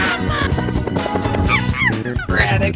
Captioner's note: monkey ooks